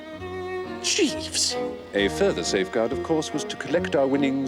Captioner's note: none